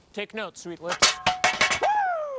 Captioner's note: metal clatters